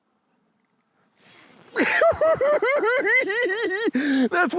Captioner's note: giggling